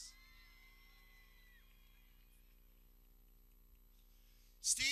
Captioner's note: people cheering